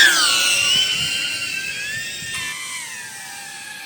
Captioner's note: sound of flying machine